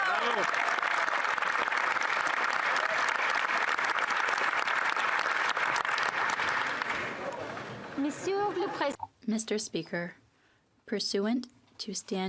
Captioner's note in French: applaudissements